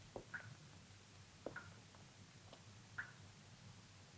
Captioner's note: liquid dripping